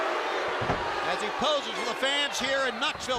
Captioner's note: crowd cheering